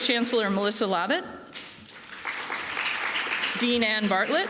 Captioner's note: applause